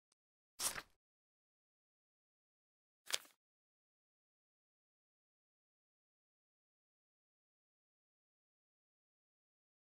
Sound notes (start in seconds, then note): 0.6 paper unfolds; 3.1 paper folds